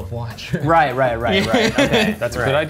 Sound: chuckles

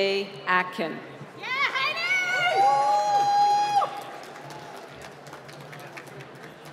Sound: cheering

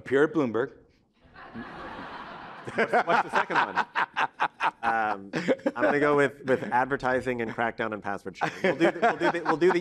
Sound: laughter

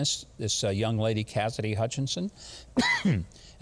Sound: coughs

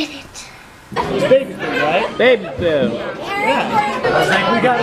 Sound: background chatter

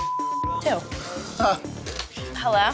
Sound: beep; Mike chuckling

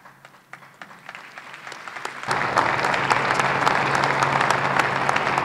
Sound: applause

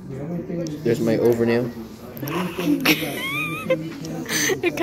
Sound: laughing

